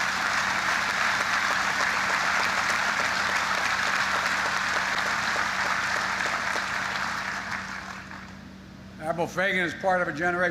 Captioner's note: applause